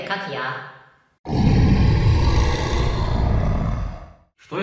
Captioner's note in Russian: ужасное рычание